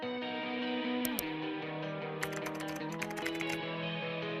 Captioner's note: upbeat music; mouse clicking; keyboard clicking